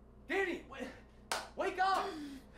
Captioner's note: claps